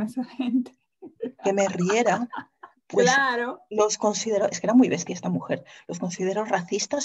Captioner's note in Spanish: Ríe